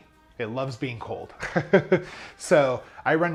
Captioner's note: chuckles